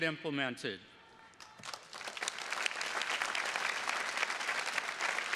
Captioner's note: attendees clapping